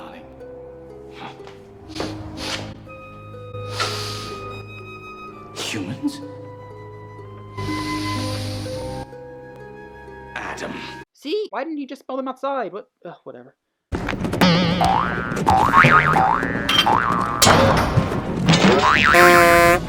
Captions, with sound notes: *sniffs intensely* *sniffs intensely* *sniffs intensely* See why didn’t he just smell them outside?! Ugh, whatever...